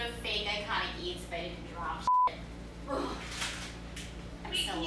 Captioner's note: groans